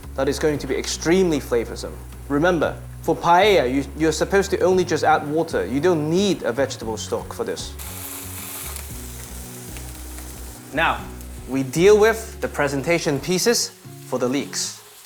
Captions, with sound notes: that is going to be extremely flavoursome. Remember, for paella, you're supposed to only just add water. You don't need a vegetable stock for this. [sizzling sound] Now, we deal with the presentation pieces for the leeks.